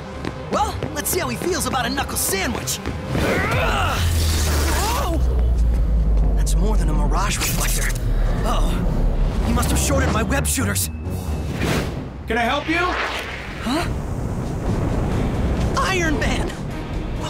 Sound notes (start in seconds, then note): 4.1 sparks